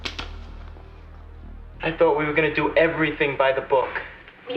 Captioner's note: none